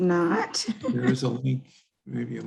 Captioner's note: chuckles